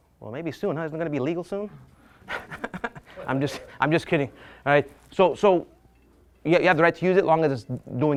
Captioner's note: laughs